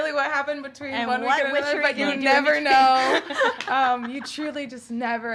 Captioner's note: laugh together